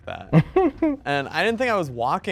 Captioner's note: chuckling